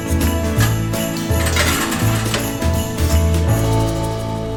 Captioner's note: clanking